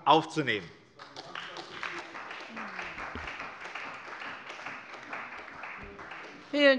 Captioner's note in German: Beifall bei der CDU